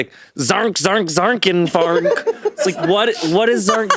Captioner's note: speaking gibberish